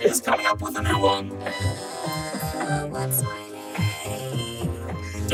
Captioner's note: groaning